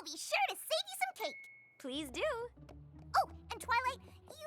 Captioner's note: tink!